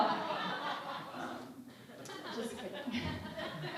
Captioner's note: laughing